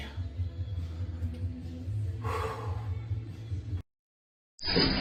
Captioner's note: breathes heavily